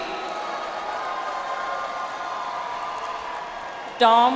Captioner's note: audience applauds